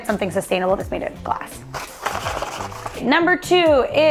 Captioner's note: box rattles